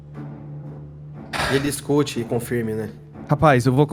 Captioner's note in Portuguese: Joui suspira